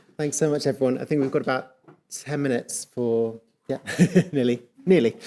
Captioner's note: chuckles